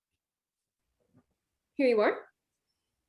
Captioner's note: none